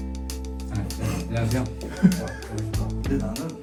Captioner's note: the bizarre chefs chuckle to themselves